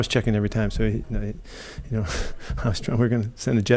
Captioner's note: laughing